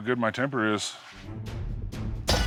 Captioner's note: clanking